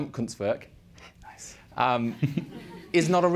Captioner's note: whispers